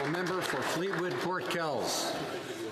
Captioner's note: some Applause